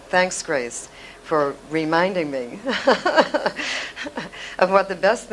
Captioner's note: laughs